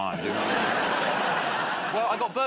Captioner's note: laughter